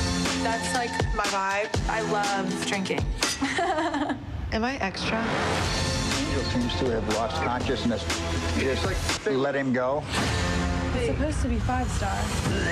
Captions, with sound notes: That's like my vibe. I love drinking. [chuckling] Am I extra? He seems to have lost consciousness. Let him go. This is supposed to be five-star.